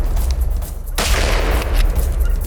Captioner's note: gunshot